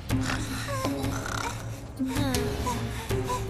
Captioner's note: panting